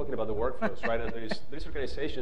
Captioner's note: panelist laughing